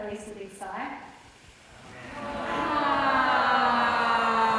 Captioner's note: all sigh loudly